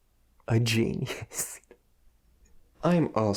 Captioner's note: Kyle laughing